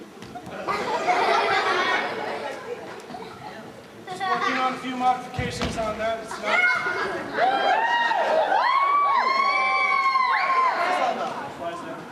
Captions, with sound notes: (laughter) Just working on a few modifications on that. It's not-- (cheers) What's this all about? Your fly's down.